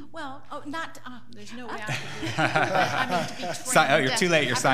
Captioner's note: laughing